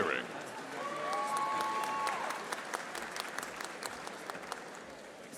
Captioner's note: audience applauding